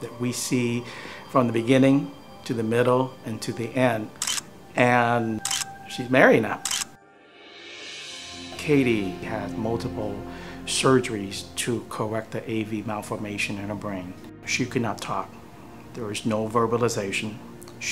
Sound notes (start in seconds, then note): 4.2 photo shutter